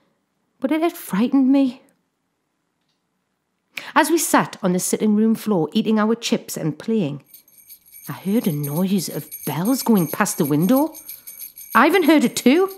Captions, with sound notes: but it had frightened me. As we sat on the sitting room floor eating our chips and playing, [BELLS JINGLE] I heard a noise of bells going past the window. Ivan heard it too,